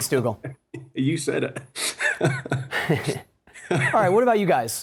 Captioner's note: laughs